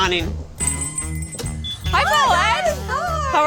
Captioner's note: bell chimes